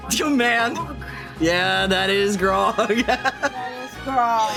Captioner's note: laughing